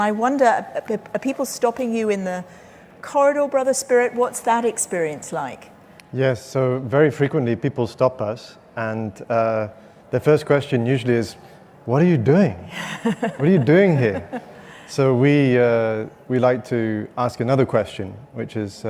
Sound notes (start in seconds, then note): 12.7 laughing